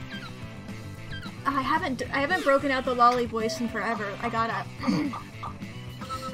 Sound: in high pitched voice; normal voice; clears throat

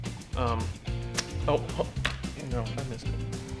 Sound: slurps

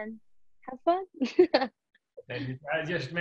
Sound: laughs

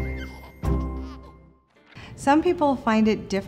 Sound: baby laughing

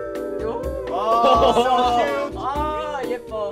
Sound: playful music; laughs

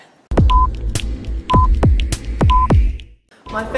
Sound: clock ticking

